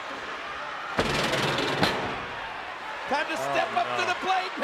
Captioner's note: steps rattling